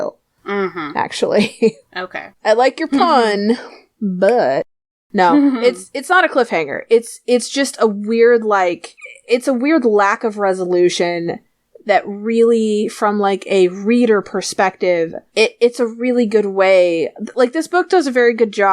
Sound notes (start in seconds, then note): 4.3 dramatic fingersnap; 5.3 laughs